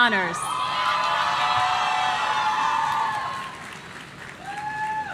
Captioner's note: audience cheering